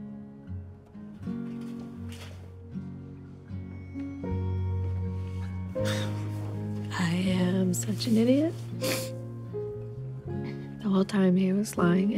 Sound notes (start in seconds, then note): 8.8 sniffles